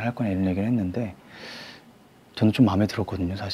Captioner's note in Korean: 스읍